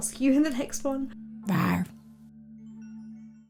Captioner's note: fish roars